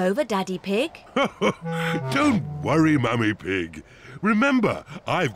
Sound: laughs

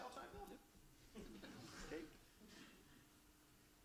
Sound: laughs

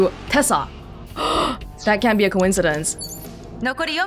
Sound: gasps

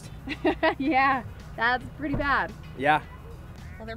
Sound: laughing

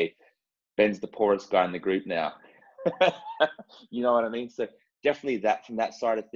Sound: laugh

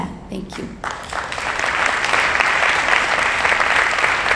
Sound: applauding

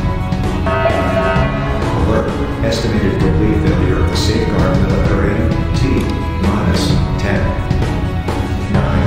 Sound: announcement Chime

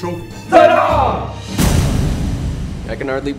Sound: marines cheer

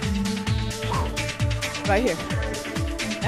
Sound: exhales

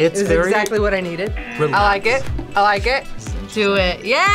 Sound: buzzer rings

